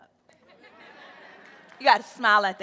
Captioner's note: audience laughing